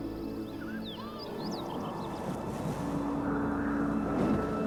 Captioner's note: wind howling